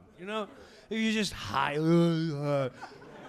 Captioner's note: slurring